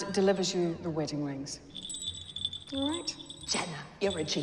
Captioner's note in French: la cloche sonne